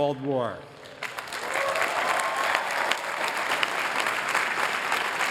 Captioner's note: applause